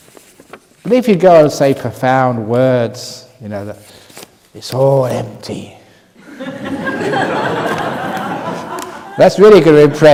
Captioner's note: laughter